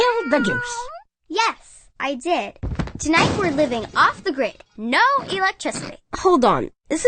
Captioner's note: meow; crash